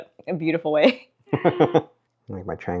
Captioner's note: chuckles